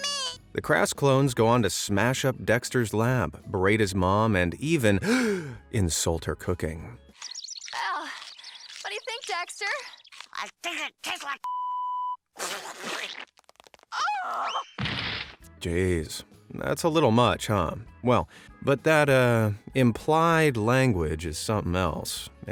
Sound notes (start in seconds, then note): 5.0 gasps